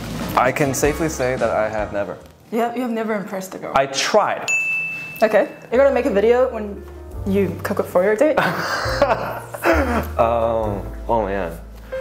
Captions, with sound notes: - I can safely say that I have never- - You have- you have never impressed a girl? - I tried. - Okay. You're gonna make a video when you cook it for your date? [nervous laughter] - Um.. - Oh man.